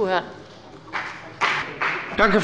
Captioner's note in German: Beifall bei der CDU und dem BÜNDNIS 90/DIE GRÜNEN